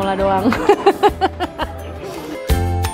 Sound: chuckled

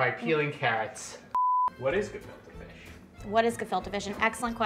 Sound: beep

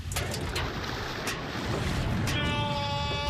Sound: SFX: Spilling sound

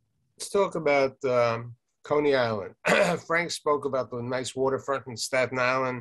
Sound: clears throat

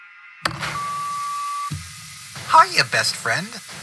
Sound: intercom beep

